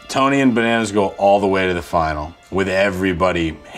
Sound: none

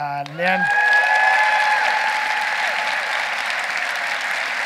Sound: audience cheering

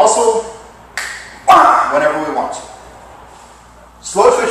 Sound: finger snap!

